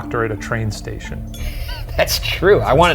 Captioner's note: laughs